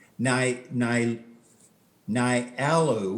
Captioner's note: stuttering